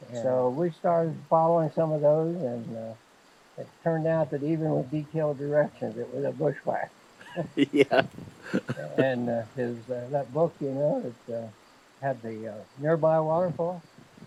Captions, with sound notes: So we started following some of those and it turned out that even with detailed directions, it was a bushwhack. (both laughing) - Yeah. And that book had the nearby waterfalls,